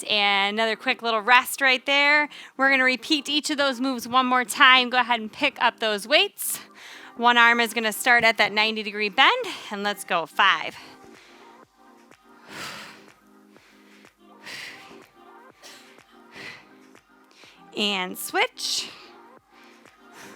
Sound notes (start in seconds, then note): 13.0 upbeat music; 14.4 panting